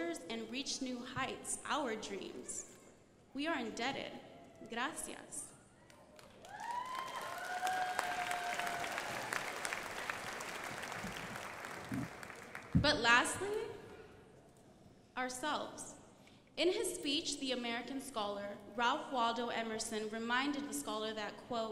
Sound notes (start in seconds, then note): 4.8 speaks foreign language; 6.0 crowd applauding